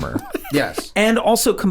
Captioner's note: Charlie laughs